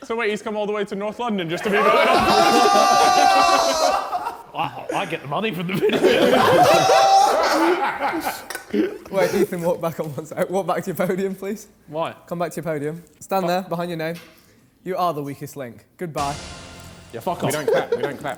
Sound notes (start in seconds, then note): 1.6 all exclaiming; 6.2 men laughing; 16.2 intense music